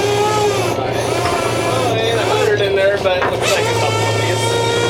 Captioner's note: engine revving